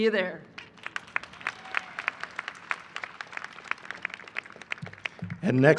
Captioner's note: applause